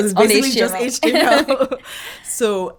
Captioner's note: laughing